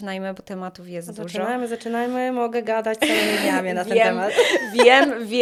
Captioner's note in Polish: śmiech